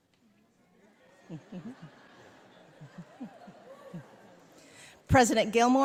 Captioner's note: audience laughing